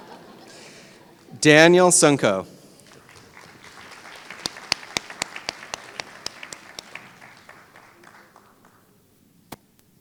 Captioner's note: applause